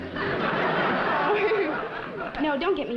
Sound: giggles

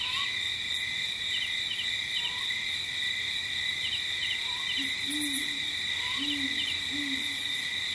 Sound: light jungle ambience

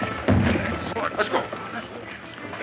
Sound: boom

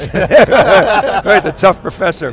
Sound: men laughing

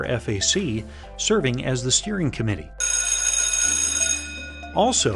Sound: sound of school bell

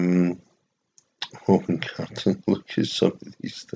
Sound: laughs

